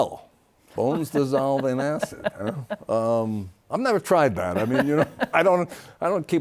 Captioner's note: laughs